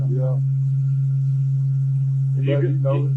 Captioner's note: motor whirring in the background